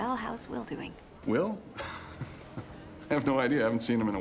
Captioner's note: chuckles